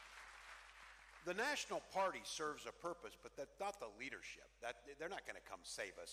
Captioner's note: cheering